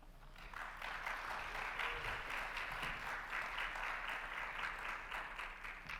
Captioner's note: audience applauds and cheers